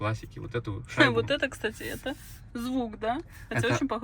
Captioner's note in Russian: смех